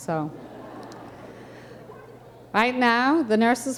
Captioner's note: audience chuckling